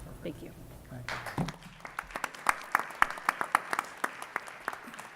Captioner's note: audience applauds